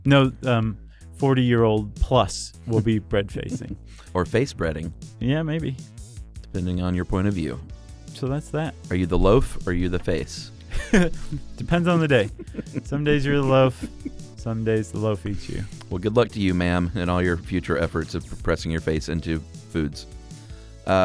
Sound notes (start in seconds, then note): 3.4 laughs; 10.6 chuckles; 11.8 laughs